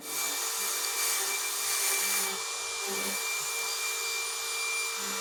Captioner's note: power took whizzing